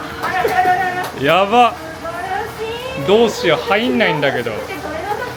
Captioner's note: crowds